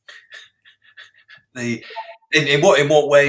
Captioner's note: laughs